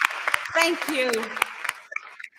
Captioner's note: applause